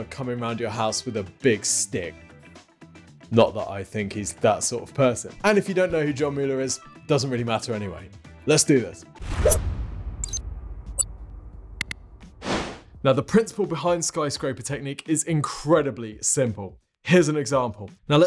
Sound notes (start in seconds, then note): 9.5 graphic thuds; 11.8 button clicks; 12.2 screen wipe whooshes